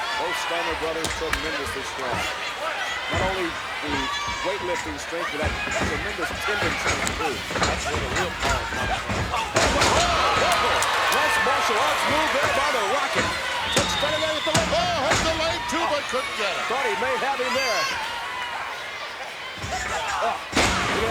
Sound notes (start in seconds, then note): 10.1 commentators exclaim; 10.1 crowd cheers